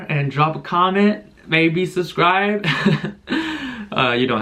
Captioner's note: awkward Laugh